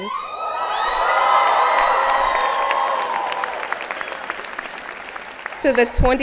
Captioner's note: applause and Cheers